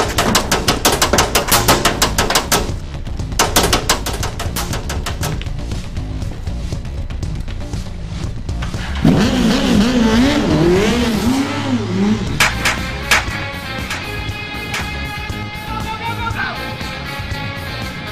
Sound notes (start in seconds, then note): 8.2 engine revving; 12.3 guns firing